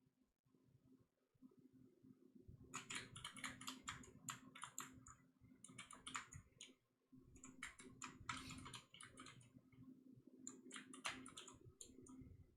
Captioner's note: clicking